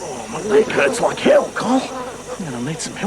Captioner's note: groans